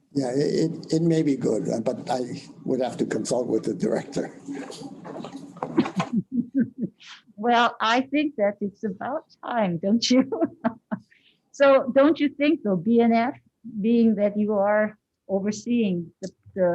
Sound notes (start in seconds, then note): 5.8 laughs; 10.2 laughs